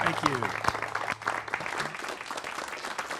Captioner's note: applause